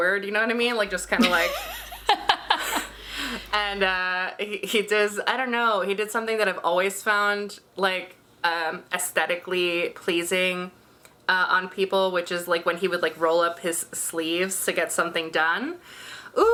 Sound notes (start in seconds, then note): 1.1 laughing